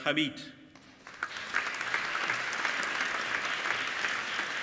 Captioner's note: applauding